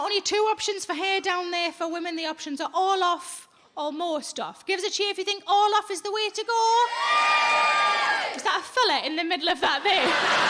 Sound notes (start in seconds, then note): 6.9 audience cheering